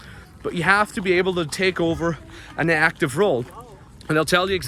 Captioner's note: people chattering